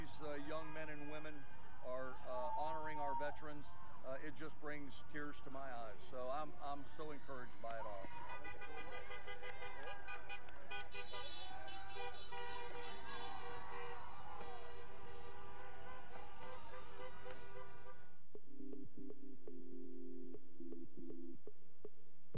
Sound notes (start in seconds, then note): 8.0 vehicles honking; 8.2 people cheering; 17.6 relaxing technical music